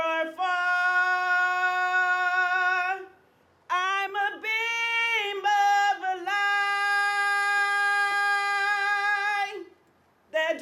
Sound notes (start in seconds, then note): none